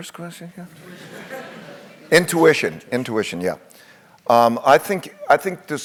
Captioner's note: laugh